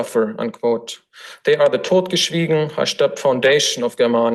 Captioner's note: foreign language